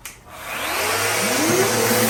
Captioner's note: machine whirring